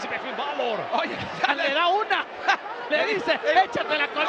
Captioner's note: laugh